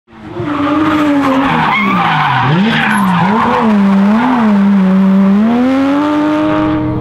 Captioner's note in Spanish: Ruedas chirriando